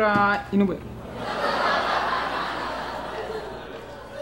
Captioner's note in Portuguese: risadas